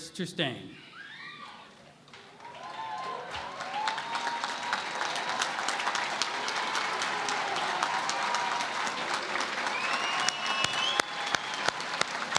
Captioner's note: cheering and Applause